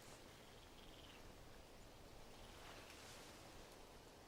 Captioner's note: insects chattering